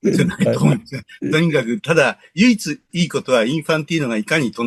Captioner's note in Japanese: 咳払い